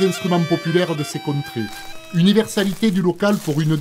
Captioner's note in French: Bruits de pas dans des feuilles